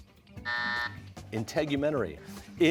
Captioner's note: buzzer